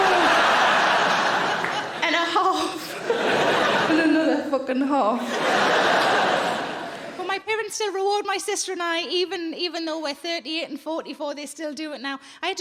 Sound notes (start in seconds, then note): 0.0 audience laughing